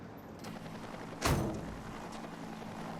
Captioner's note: helicopter flying